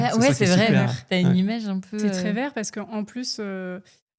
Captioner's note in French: raclement de gorge